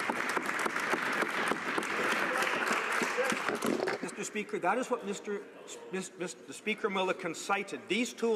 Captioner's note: applause